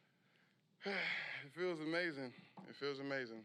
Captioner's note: sighs